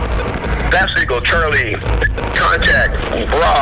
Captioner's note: voiceover